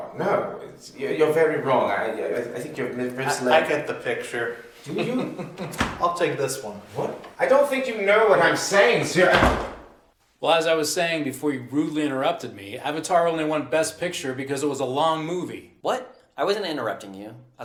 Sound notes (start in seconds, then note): 4.8 Tomas chuckles